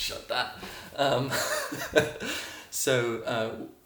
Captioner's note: chuckling